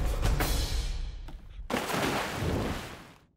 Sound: splash

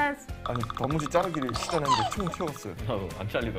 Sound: laughs

